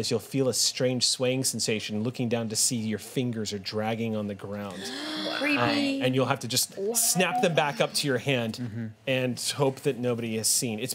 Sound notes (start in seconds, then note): 4.7 gasps